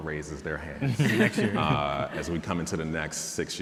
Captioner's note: panelists chuckling